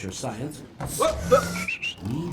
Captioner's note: whistle